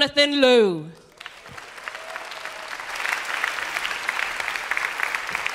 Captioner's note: applause